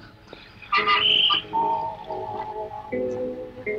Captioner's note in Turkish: Korna sesleri